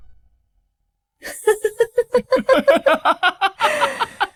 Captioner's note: sinister laughter